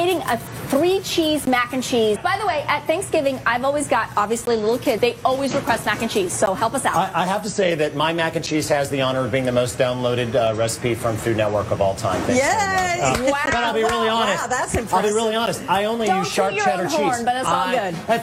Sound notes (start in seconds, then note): 12.4 both cheering